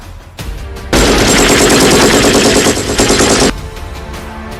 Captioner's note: gunshots firing